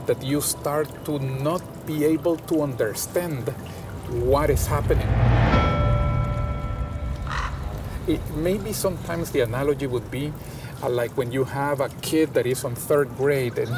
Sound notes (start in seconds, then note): 7.3 crow cawing